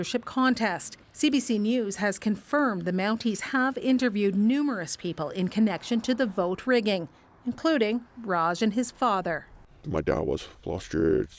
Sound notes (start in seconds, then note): none